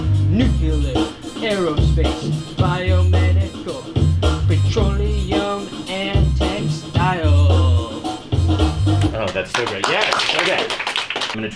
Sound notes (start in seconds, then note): 0.0 singing; 9.0 applause